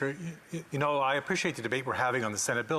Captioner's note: speaking French